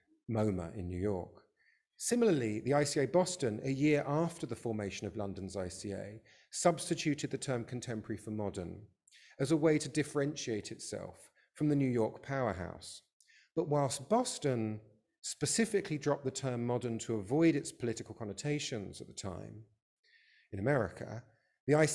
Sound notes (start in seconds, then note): none